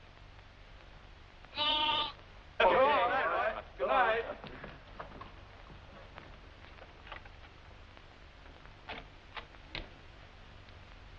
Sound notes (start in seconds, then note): 1.5 bleating